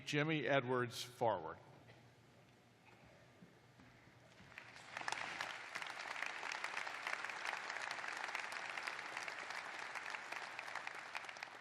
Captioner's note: applause